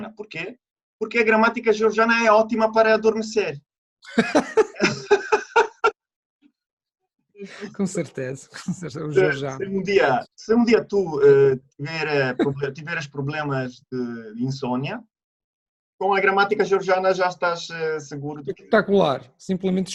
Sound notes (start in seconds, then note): 4.0 laughter